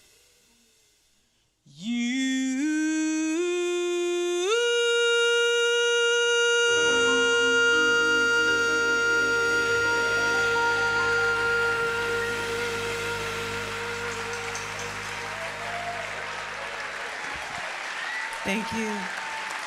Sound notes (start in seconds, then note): 12.8 audience applauding; 12.8 audience cheering